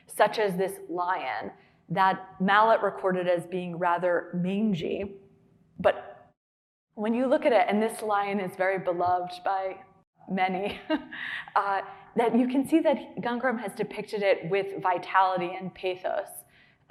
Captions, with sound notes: such as this lion that Malet recorded as being rather mangy. But when you look at it, and this lion is very beloved by many, [laughing] that you can see that Gangaram has depicted it with vitality and pathos.